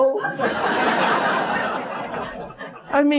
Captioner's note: audiencelaughing